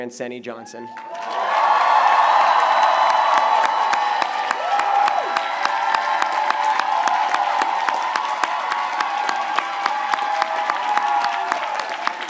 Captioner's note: applause